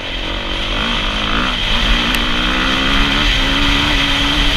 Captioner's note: engine humming